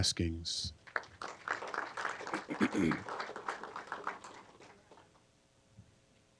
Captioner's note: applause